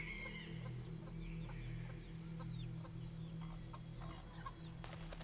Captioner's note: chickens clucking